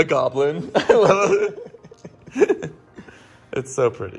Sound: laughing

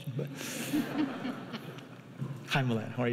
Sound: laughing

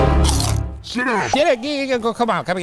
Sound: spooky music; potato chip crunches

